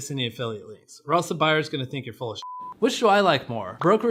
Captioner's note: beep